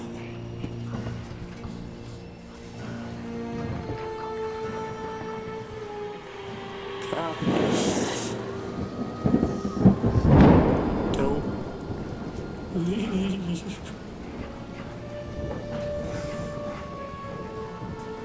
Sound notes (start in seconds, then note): 0.2 dramatic music; 9.0 storm raging